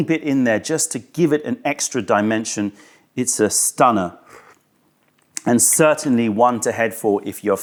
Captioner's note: sips tea